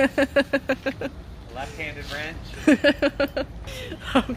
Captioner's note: laughs